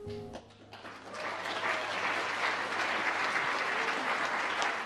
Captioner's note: audience applauds